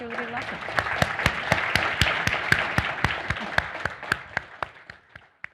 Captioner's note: audience applauding